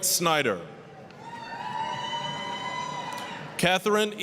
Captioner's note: applause, cheering